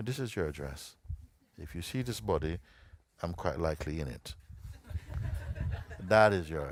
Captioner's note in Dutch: gelach